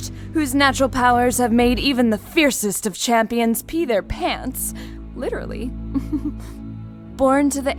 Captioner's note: laughs